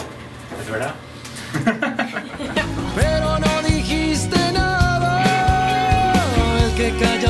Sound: laugh

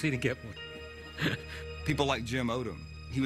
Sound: laughs

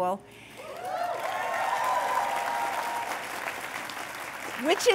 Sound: cheers and applause

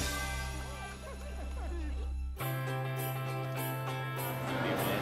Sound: soldier laughing

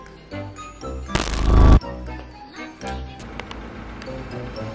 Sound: electric zapping

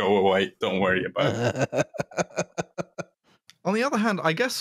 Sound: laughs

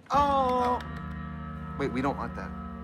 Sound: clapping

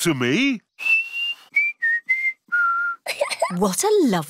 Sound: whistles a tune; giggles

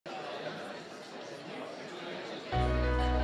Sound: indistinct chatter

